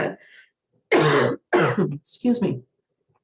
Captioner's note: coughs